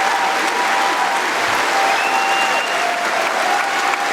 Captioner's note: cheering & Applause